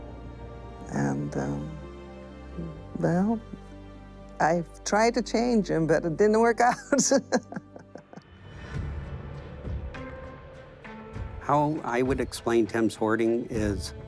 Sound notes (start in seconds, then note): 6.6 laughs